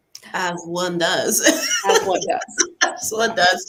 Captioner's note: laughs